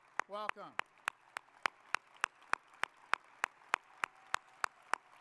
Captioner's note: audience applauding